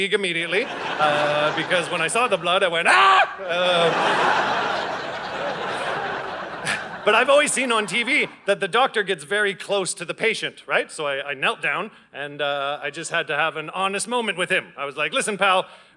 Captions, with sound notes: immediately, because when I saw the blood, I went “Agh!” (Audience laughing) But I've always seen on TV that the doctor gets very close to the patient. Right. So I knelt down, and, I just had to have an honest moment with him. I was like, “Listen, pal,